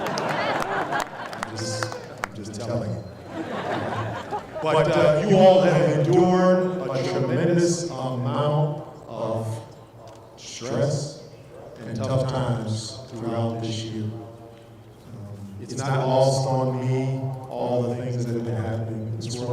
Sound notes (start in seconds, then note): 0.0 applause and laughter